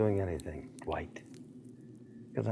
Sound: none

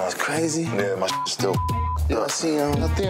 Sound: beep

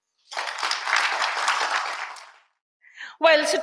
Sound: audience applauds

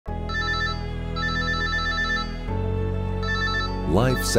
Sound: soft music; phone ringing

